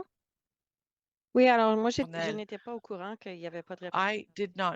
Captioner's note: non-english speech